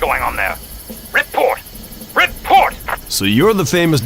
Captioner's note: radio